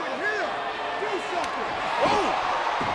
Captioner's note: audience cheering; Daniel slapping